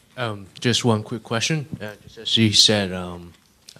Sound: voiceover

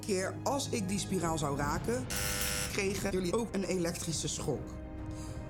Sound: buzzer

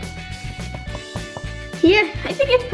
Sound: knocking

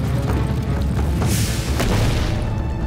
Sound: thudding

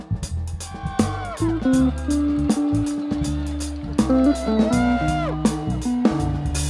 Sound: students cheering

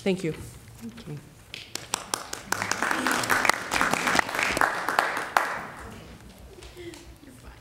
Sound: applause

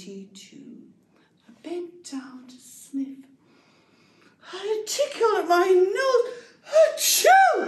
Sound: inhale

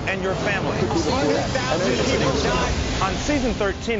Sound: people chattering

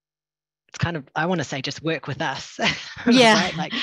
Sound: laughter

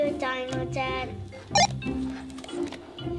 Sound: walkie talkie beeps

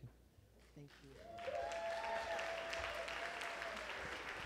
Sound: applause

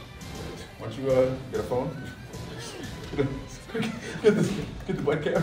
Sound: cough; laugh

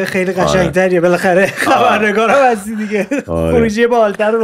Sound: laughter

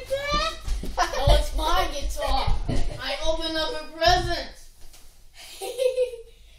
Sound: laughing

